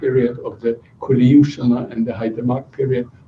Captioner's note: non-english speech